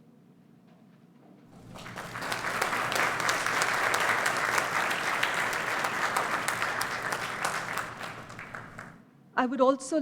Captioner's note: applause